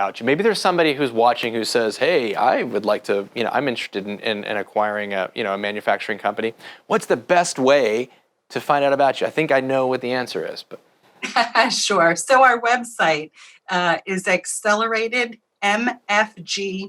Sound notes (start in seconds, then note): 11.2 laughs